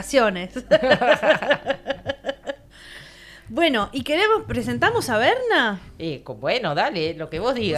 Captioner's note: laughs